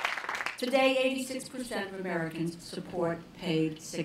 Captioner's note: applause